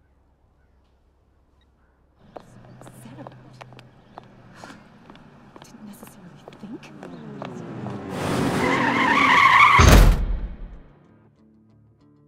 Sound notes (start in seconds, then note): 6.8 car engine powering down; 8.4 tires squealing; 9.6 crashing